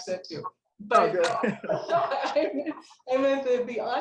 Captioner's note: laughing